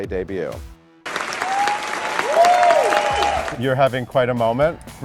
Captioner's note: audience cheers and claps